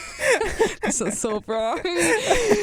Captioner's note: both laugh